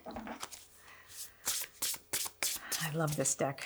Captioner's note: cards rustle